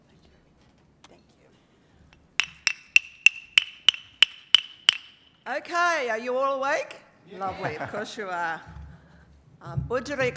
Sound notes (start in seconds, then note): 2.3 clacking